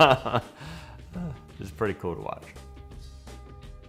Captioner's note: laughter